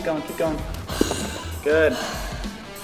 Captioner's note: sighs